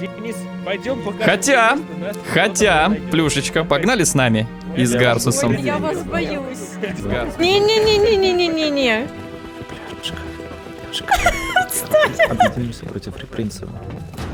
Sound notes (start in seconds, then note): 9.5 whisper; 10.9 laughter; 12.5 whisper